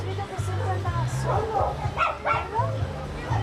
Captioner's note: speaking in a foreign language